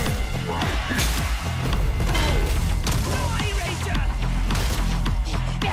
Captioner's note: gunshots